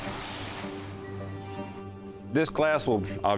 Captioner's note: door opens